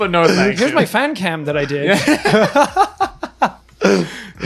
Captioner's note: laughing